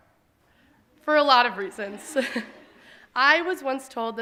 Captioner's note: audience laughing